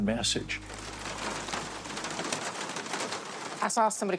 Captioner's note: pattering